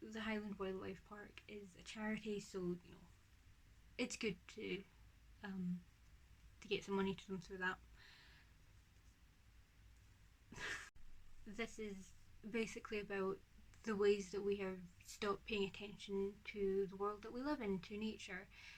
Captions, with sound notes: The Highland Wildlife Park is a charity so it's good to get some money to them through that. [laughs] This is basically about the ways that we have stopped paying attention to the world that we live in. To nature.